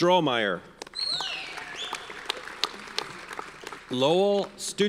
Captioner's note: audience cheers and applauds